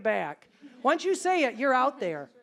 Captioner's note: audience chuckling